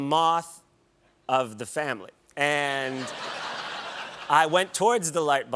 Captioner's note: laughter